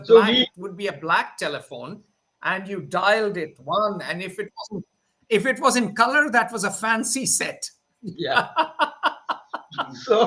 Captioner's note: laughs